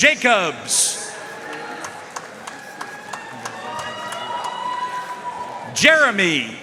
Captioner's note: audience cheering and applauding